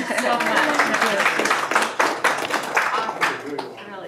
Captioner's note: applause